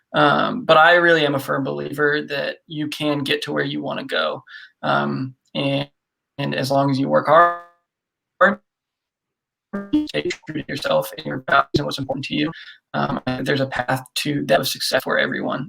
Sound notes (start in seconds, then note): 9.7 audio skips